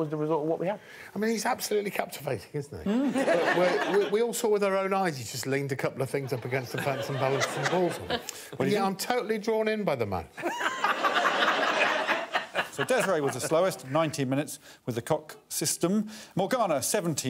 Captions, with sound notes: So, that was the result of what we had. I mean, he's absolutely captivating, isn't he? -Mm. -We all saw with our own eyes, he just leaned a couple of things up against the fence and balanced the balls on them. -[audience laughing] -Only I'm totally -drawn in by the man. -[all laughing] So Desiree was the slowest, with 19 minutes. With the cock system.